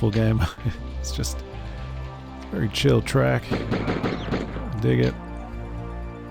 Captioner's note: chuckles softly